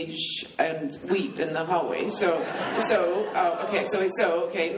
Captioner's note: laughing